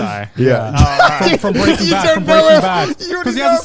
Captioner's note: laughs